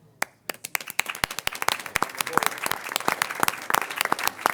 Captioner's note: crowd applauding